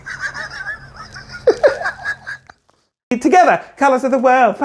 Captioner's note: laughing